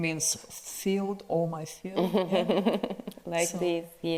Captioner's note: Natasha chuckles